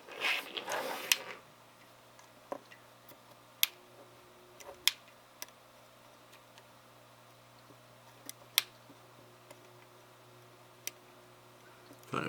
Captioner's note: click